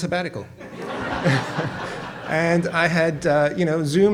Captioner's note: audience laughs